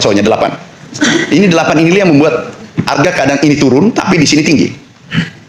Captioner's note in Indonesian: berdehem